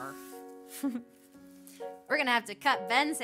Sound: giggling

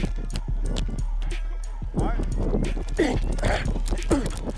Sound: grunting

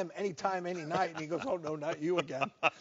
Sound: pink top host laughs

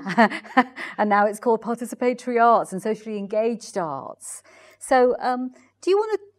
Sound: laughs

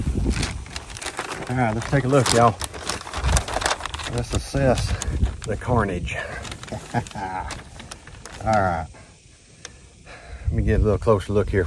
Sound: laughing

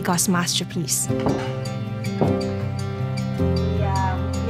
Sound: plates clanging

